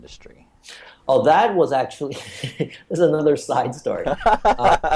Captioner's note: laughs